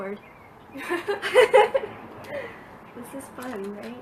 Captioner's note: laughs